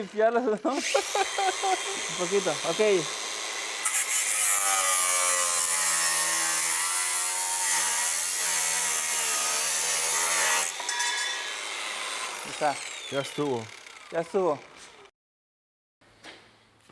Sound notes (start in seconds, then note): 5.1 taladro